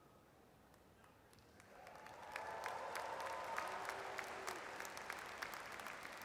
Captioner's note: audience cheers and applauds